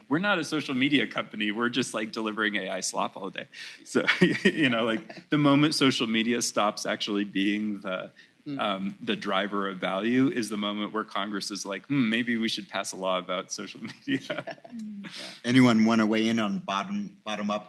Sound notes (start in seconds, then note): 4.0 laughs